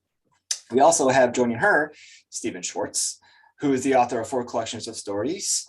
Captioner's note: lip smack